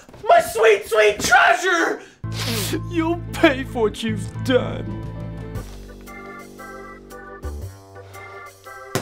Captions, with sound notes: My sweet, sweet treasure! [sniff] You'll pay for what you've done!